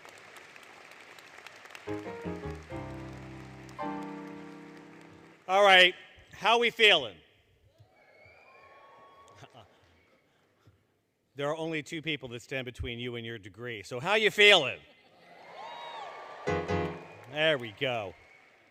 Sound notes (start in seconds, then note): 0.0 applause, Music; 7.8 cheering; 15.2 cheering; 15.6 cheering, Music